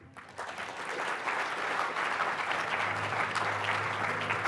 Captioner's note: audience applauding